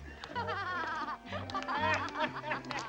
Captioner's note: woman laughs; man laughs